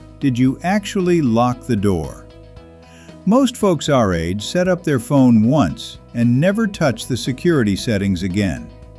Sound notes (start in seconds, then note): 2.3 conversational tone